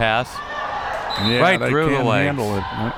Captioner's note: whistle